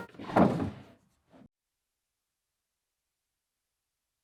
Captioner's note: drawer thudding